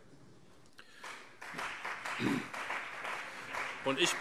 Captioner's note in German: Beifall CDU und BÜNDNIS 90/DIE GRÜNEN